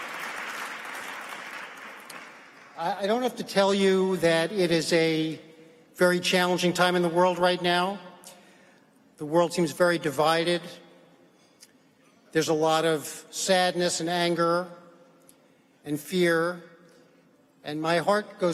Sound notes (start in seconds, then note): 3.3 applause